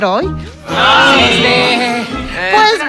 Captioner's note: gay groaning